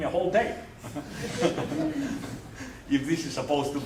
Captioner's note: laughter